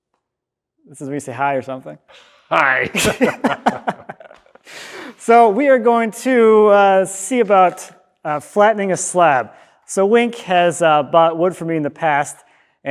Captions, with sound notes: This is when you say hi, or something. - Hi. (both laughing) - So we are going to see about flattening a slab. So, Wink has bought wood for me in the past,